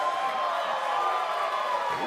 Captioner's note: cheers & applause